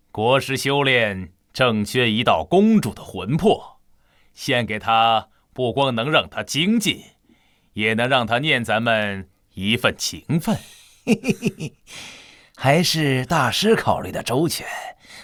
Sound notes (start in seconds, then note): 10.4 chuckles slyly